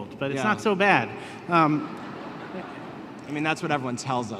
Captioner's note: laughter